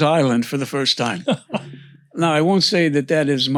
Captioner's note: laughs